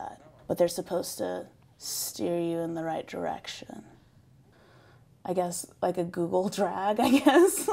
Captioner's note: laughs